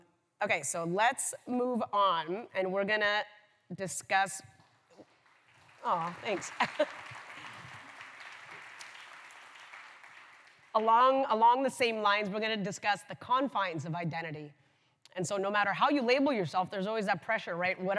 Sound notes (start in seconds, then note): 5.0 applause; 6.3 laughs; 7.6 applause